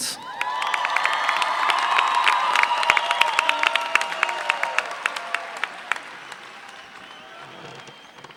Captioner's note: applause